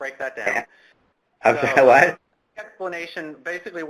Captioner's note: laughs